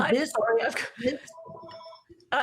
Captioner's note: phone ringing